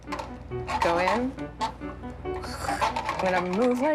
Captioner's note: sighs